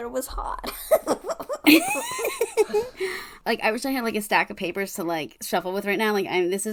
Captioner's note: laughing; laughs